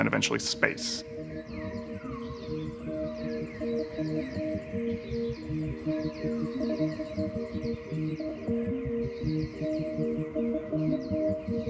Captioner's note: birds chirping; gentle music